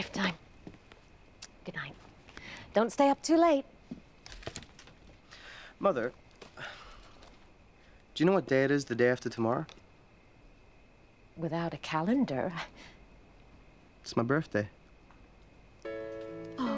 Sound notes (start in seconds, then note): none